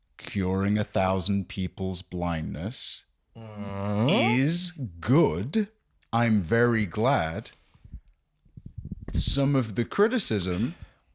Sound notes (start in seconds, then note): 4.1 inquisitive noise